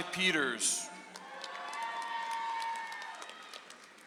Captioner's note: audience applauds